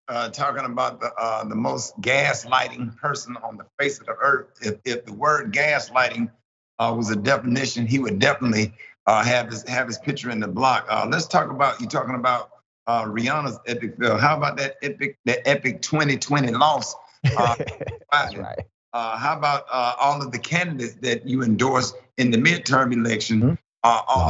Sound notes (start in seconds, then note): 17.2 laugh